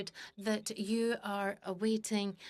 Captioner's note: speaking in French